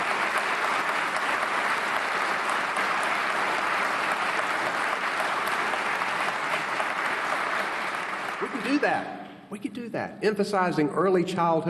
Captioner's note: applause